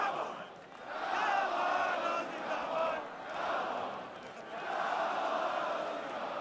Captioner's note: fans chanting